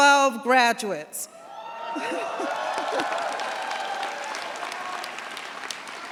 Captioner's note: cheers, applause